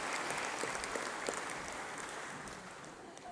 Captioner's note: applause